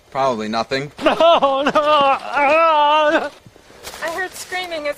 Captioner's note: screaming